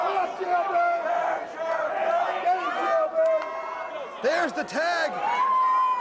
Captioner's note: crowd chatter